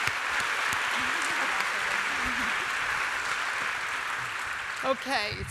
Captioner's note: applause